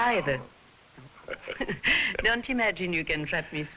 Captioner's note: both chuckling